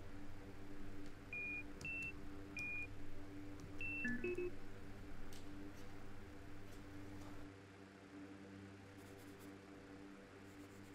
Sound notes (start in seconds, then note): 1.3 container beeps